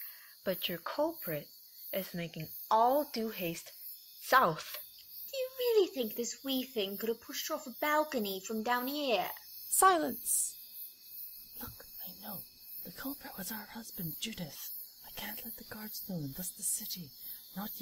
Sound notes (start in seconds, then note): 11.5 whispering